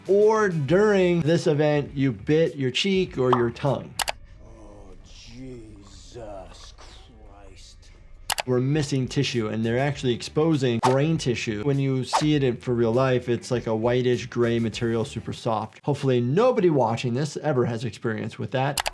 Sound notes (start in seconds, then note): 3.2 picture graphic pops; 3.9 video graphic clicks; 8.2 video graphic clicks; 12.1 audio whooshes